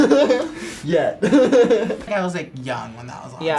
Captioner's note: laughs